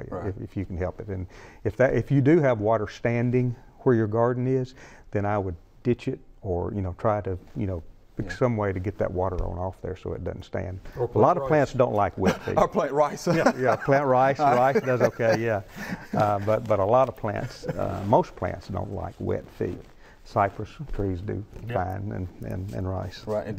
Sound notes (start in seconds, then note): 14.3 laughs